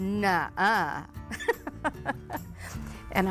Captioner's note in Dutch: lacht